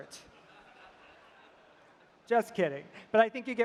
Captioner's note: laughter